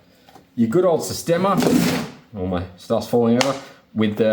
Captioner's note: crashing